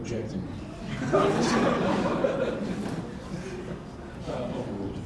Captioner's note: audience laughing